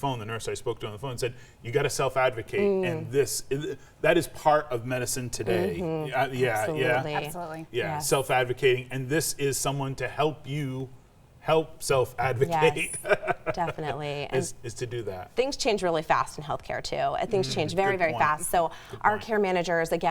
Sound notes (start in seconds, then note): 12.3 chuckles